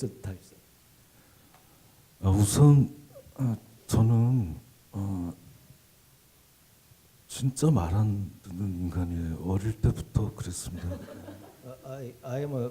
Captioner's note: speaking Korean